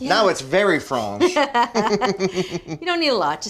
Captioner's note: both laughing